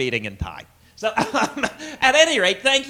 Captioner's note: laughs